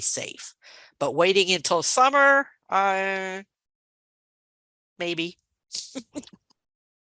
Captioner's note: chuckling